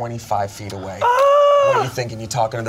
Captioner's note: yells